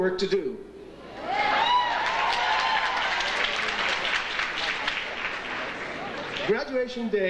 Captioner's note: audience cheering and applauding